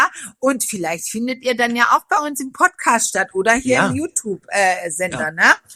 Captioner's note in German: räuspern